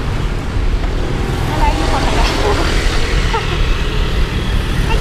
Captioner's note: laughs